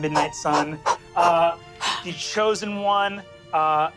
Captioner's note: imitates martial arts breathing